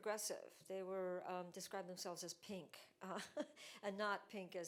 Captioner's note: chuckles